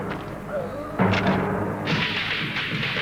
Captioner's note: neck snaps